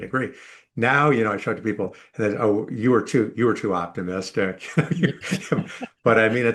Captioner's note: laugh